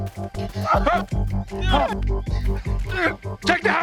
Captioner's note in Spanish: Quejidos